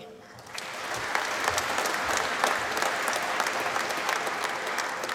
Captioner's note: applause